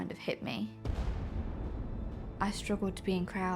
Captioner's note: distant explosion roars